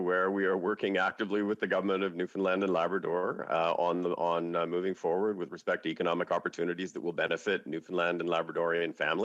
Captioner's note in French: voix de l'interprète